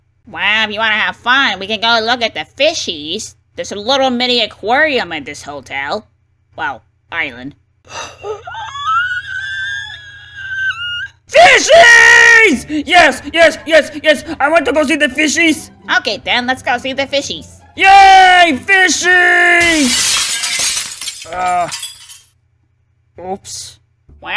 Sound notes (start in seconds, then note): 7.8 surprised Wario noises; 19.5 glass break